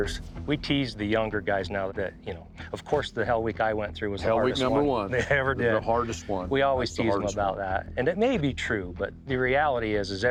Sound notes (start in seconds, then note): 6.8 laughs